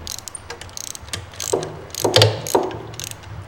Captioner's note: clicking sound